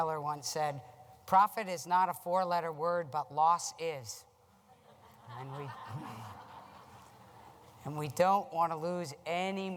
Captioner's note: laughter